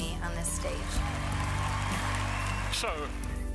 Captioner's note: applause